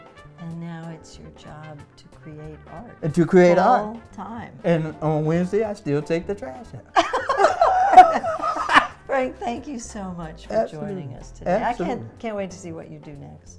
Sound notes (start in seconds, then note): 6.9 laugh